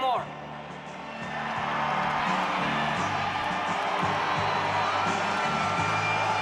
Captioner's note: audience cheers and applauds